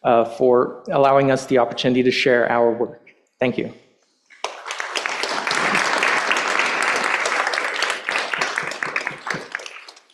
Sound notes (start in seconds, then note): 4.3 applause